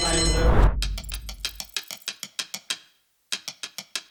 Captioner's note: clock ticking